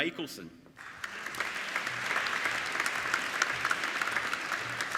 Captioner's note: applauding